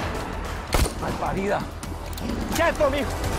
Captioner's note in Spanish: Disparos